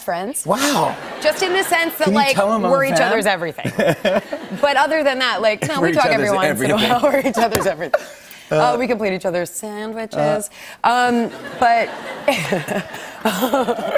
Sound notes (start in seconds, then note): 3.6 laughter; 11.2 laughter